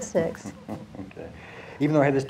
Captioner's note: chuckling